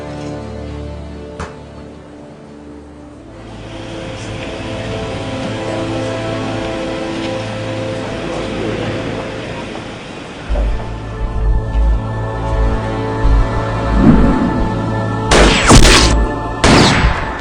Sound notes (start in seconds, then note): 16.6 guns firing